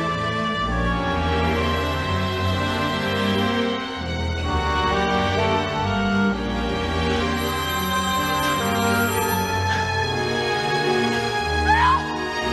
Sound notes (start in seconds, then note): 7.3 phone rings; 11.6 woman screams